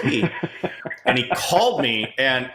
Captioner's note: laughing